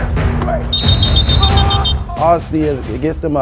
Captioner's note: whistling